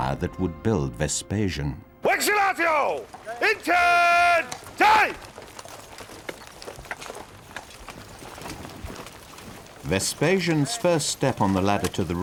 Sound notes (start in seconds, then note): 2.0 man shouting in foreign language; 5.4 hoof beats clomping; 5.5 armor clanging